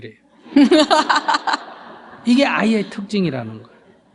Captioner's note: questioner/Audience Laughter